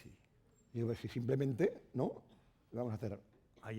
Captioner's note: speaking spanish